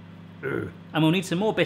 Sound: grunt

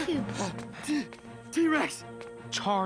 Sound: panting

